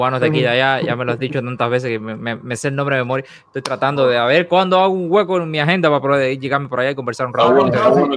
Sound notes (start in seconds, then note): 5.8 laughs